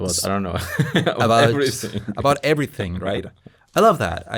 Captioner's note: laughs